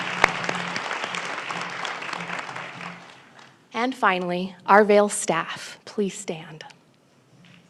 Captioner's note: applause